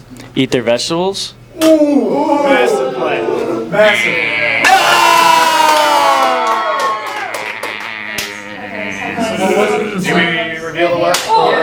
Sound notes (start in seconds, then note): 1.6 bunch of "oohs"; 4.6 cheers from green, no's from red